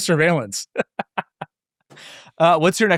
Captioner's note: laughing